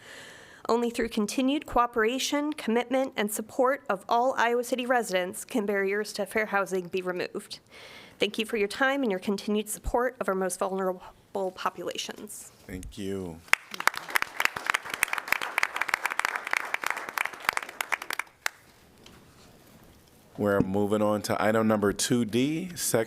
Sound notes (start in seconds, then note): 13.4 applause